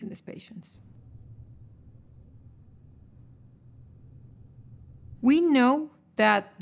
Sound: silence

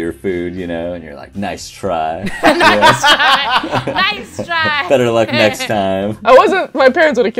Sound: laughter

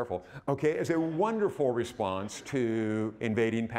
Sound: audience laughing

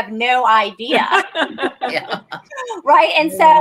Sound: laughter

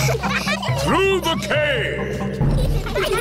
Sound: echoing

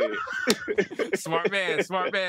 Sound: laughter

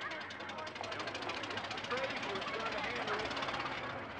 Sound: engine idling

